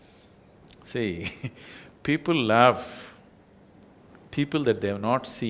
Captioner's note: laughs